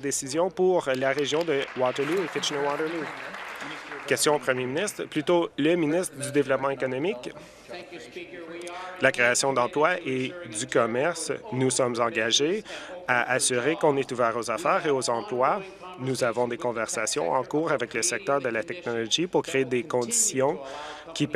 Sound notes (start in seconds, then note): 4.7 applause